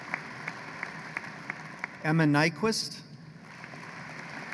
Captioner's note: applause